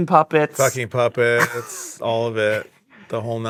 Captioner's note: laughing